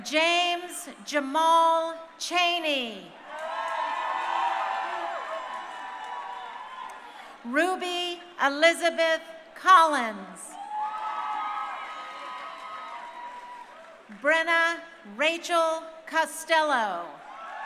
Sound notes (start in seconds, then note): 3.2 crowd cheering; 10.5 crowd cheering